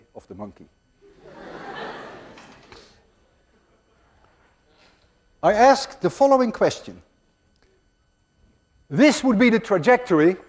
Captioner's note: class laughs